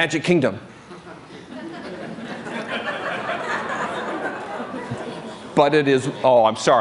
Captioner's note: laughter